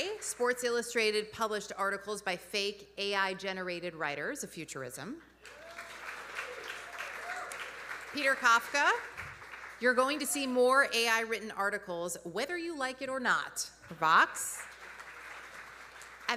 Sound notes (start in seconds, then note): 5.4 audience applauding; 5.4 audience cheering